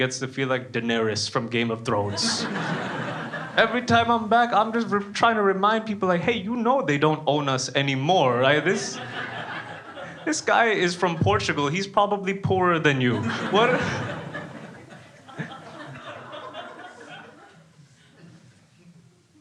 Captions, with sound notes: gets to feel like Danarys from Game of Thrones. (crowd laughing) Every time I'm back I'm just trying to remind people hey you know they don't own us anymore right? This guy is from Portugal, he's probably poorer than you (laughs). (crowd laughing)